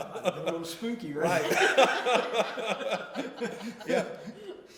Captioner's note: laughter